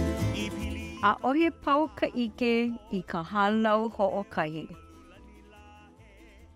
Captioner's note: performer singing in Hawaiian language; narrator speaking in Hawaiian language